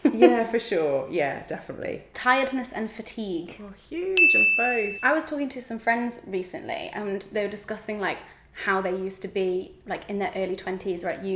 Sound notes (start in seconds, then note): 4.2 bell dings